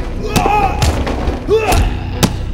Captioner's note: Nick moaning; body thudding; choking sound; dramatic music